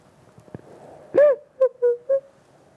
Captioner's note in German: weint